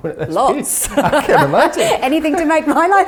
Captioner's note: laughing